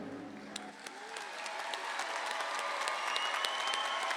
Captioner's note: audience applauds